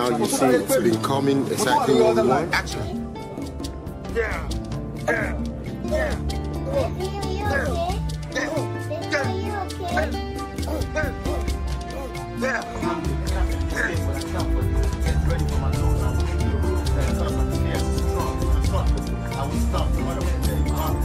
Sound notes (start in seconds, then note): 5.0 actor groaning; 12.3 man grunting